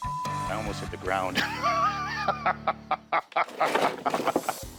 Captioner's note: laughter